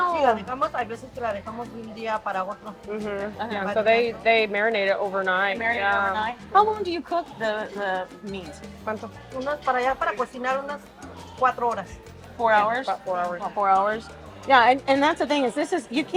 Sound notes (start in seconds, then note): 0.0 speaks Spanish; 9.0 speaks Spanish